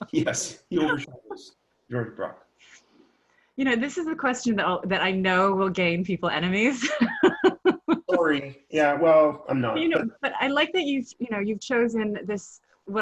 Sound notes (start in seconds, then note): 0.8 laughs; 6.8 laughs